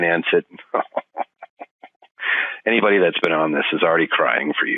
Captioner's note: laughing